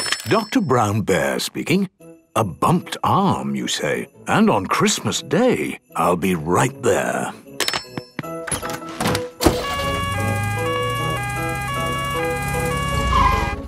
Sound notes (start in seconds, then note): 0.0 ringing; 9.5 siren sounding